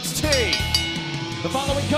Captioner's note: bell ringing